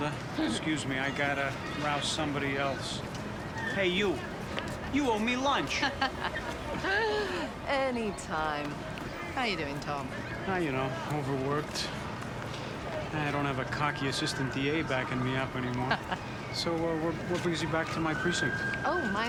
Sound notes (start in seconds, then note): 5.7 laughs